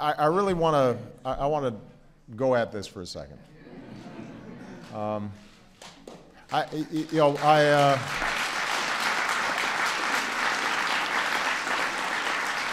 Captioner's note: audience murmurs; applause